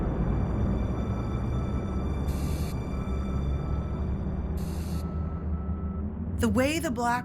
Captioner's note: machines beeping and hissing